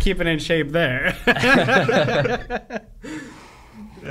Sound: laughing

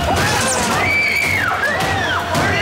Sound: screaming

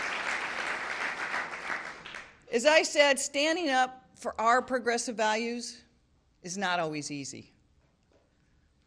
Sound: applause

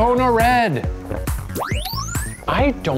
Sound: electronic whoosh

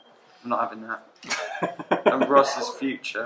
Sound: laughs

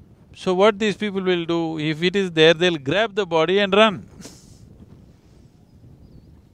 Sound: laughs

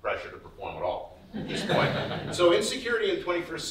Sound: audience laughs

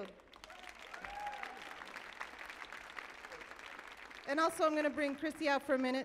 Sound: audience applauding

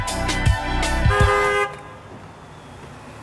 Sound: car honking

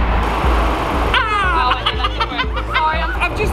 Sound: laughs

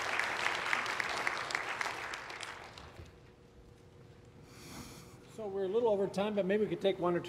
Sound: applause

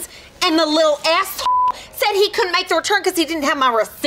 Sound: beep

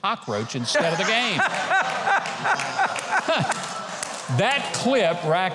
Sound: laughing loudly

